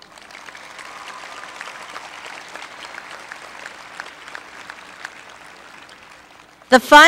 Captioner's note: applause